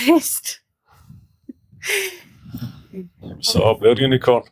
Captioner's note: laughter